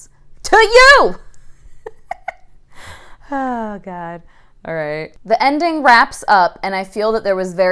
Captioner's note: shouts; laughing